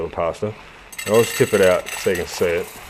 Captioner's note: pasta rattles